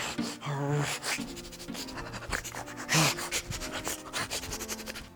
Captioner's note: suspenseful music; loud pants and grunts